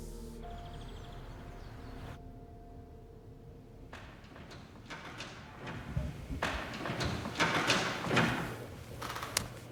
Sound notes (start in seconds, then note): 0.1 birds chirping; 7.2 door clatters, loudly